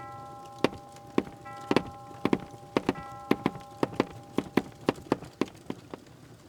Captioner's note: footsteps